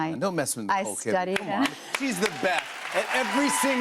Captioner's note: cheers and applause